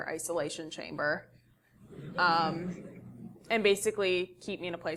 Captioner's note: laugh